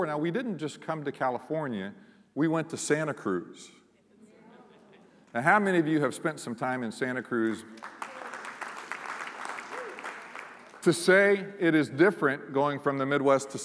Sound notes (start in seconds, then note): 7.4 applause